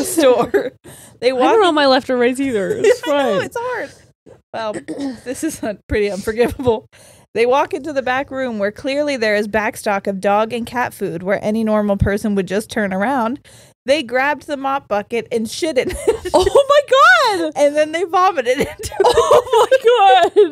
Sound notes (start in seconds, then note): 15.9 laughs; 18.5 all laughing